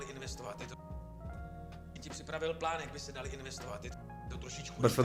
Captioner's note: audio in Czech